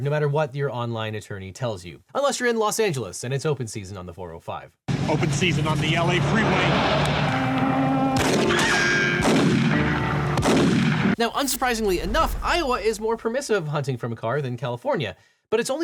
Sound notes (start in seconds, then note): 7.3 horn blaring; 8.3 gunshots blasting